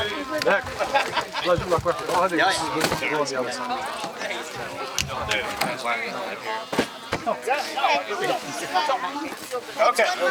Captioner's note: indistinct chatter